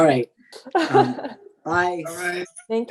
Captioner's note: laughs